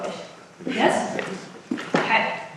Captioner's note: audience muttering